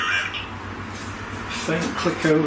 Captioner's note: robotic voice